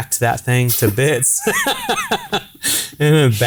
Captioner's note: laughing